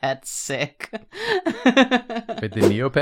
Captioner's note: laughs